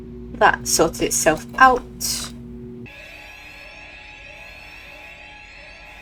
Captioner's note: flashback to every alarm going off at once